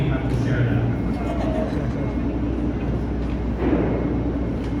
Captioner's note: light laughter